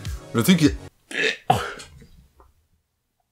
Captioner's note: retches